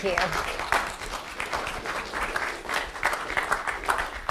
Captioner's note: applause